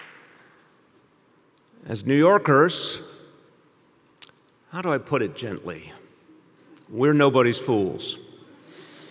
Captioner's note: applause